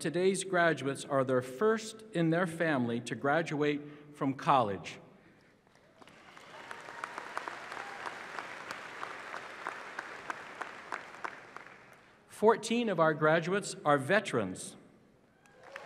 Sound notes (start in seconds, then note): 11.2 applause